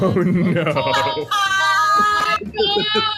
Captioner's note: group laughs